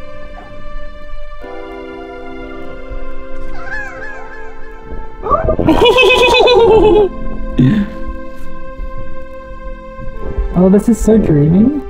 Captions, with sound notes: [sprite laughs] - ohhhawaaauuuu!! - ehheehehehehehehehe!! oh this is so dreamy…